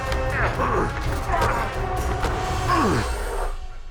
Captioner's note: both grunting